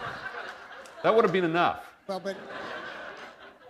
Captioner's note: laughter